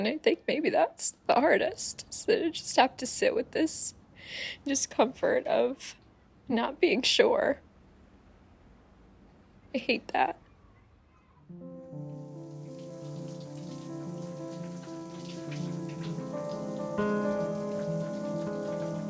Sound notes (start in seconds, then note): 14.6 shower running